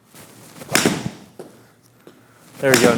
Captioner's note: ball smacking